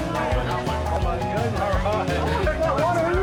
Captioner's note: crowd noise